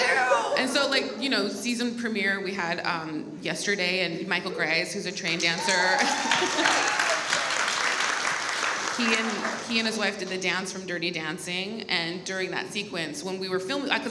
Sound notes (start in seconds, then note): 5.6 audience applauds